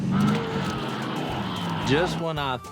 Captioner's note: engine revving